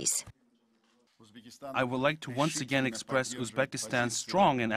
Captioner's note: uzbek